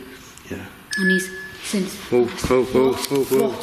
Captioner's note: beeping